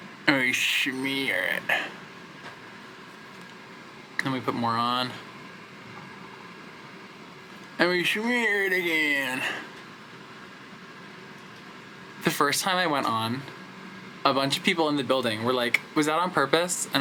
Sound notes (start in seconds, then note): none